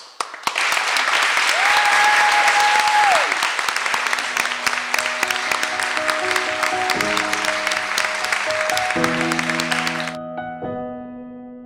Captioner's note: audience claps and music rises and fades